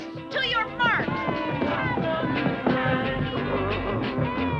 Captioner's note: kids cheering; growling